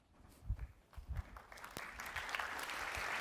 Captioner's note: applause